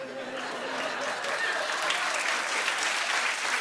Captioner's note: cheers and applause